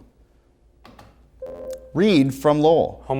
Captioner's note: ringing